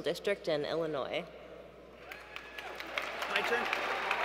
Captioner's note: applause